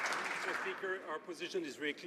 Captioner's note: some Applause